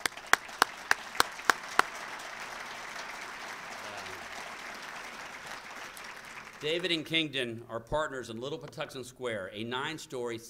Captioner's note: applause